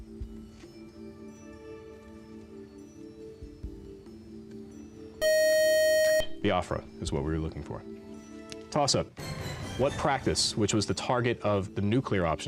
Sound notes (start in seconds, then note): 5.2 time-out buzzer